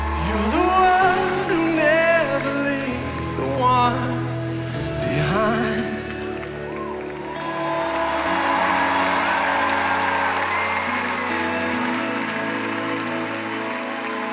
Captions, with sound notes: You're the One who never leaves the one behind [cheering and applause]